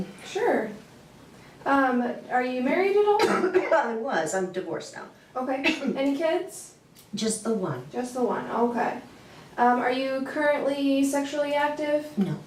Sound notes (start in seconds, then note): 3.1 coughing